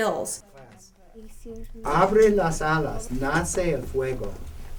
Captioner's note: speaking spanish